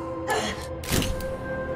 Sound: shutter sounds

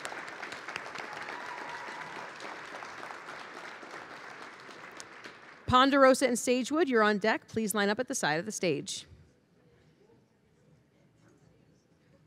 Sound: applause

